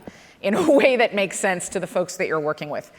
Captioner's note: laughs